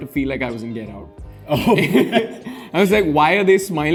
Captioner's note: laughs